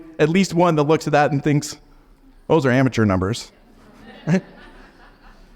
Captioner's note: audience laughs softly; chuckles